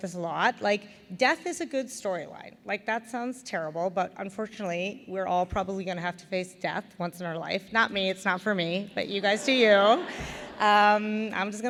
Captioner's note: laughter